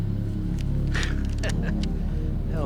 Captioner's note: chuckles